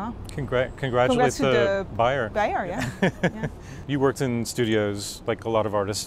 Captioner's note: laughs